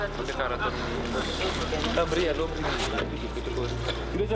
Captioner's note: French spoken audio